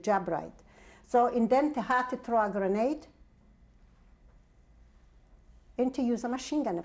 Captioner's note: pauses for 3 seconds